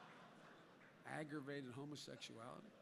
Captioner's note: laughter